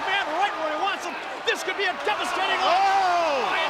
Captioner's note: crowd clamoring